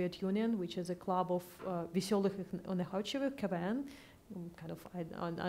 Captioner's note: foreign language